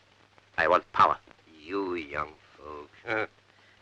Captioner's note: laughs